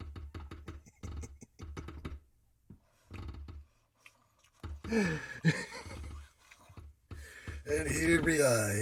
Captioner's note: uncontrollable giggling